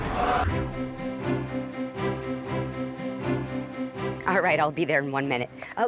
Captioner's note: lion roar